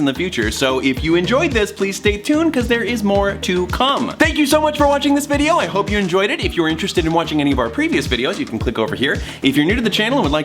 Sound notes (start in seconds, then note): none